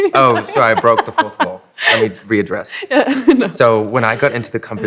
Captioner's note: laughing